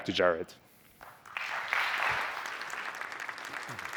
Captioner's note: applause